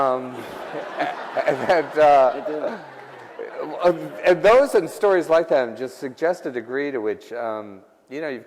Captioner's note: laughter